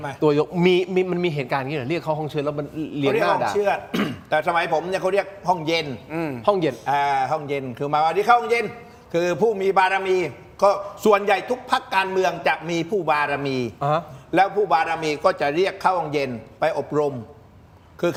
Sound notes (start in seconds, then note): 3.9 clears throat